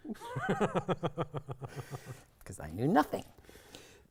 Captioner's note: both chuckling